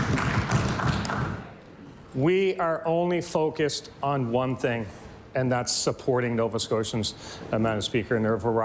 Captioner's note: applause